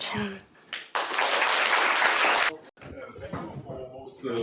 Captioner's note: applause